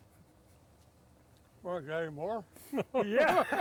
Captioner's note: all laughing